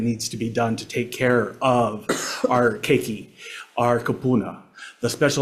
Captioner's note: speaks Hawaiian